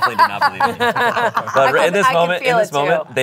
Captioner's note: everyone laughs